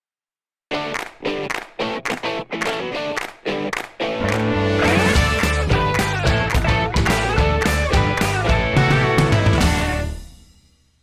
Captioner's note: claps